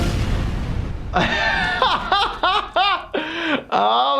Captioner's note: laughs